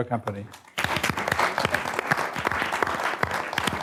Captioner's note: clapping